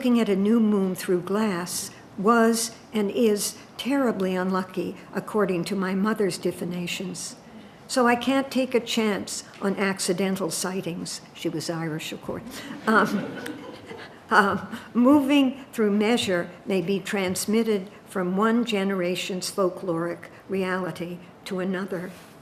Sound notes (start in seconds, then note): 12.8 audience laughing